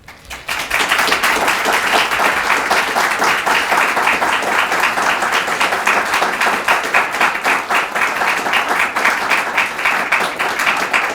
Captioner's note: applause